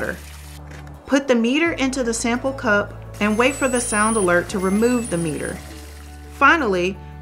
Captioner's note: meter beeps